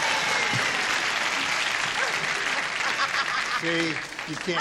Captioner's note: applause